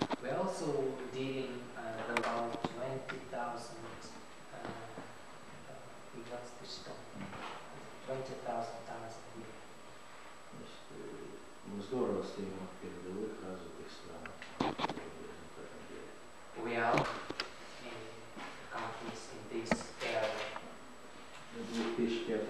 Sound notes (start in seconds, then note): 15.6 speaking russian